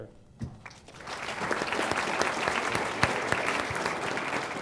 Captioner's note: applause